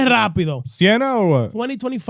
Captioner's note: speaking In Foreign Language